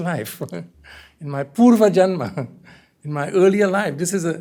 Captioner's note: hindi